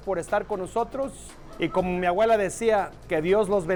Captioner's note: in Spanish